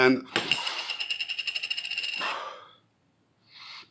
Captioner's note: sniffing